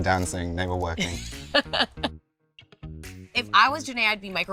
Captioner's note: laughs